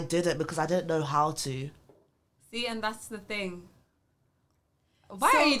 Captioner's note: laughs